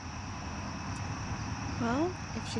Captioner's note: traffic whirs